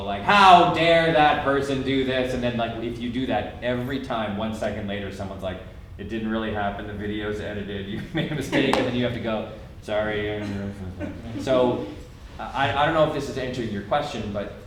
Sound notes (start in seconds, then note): 10.1 murmurs